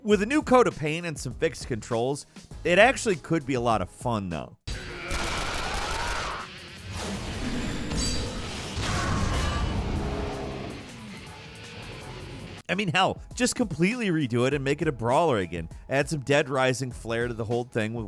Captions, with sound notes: With a new coat of paint and some fixed controls, it actually could be a lot of fun though. (dynamic music) (gun firing) (bullets whooshing) (explosion booming) (zombies groaning) I mean, hell, just completely redo it and make it a brawler again, add some "Dead Rising" flare to the whole thing